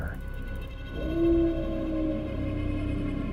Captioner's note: mournful howl